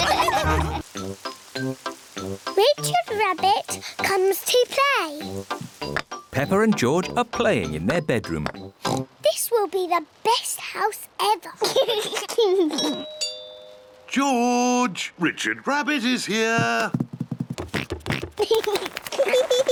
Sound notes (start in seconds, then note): 8.8 oinks; 11.6 laughs; 13.0 doorbell rings; 18.0 oinks and giggles